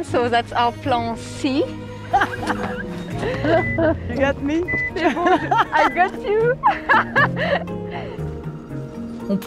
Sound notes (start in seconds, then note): 2.1 laughs